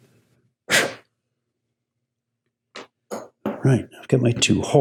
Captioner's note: blowing